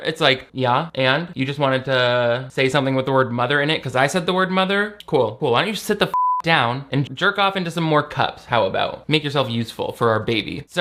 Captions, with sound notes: It's like, yeah, and you just wanted to say something with the word mother in it 'cause I said the word mother. Cool, cool. Why don't you just sit the (beep) down and into some more cups, how about? Make yourself useful for our baby.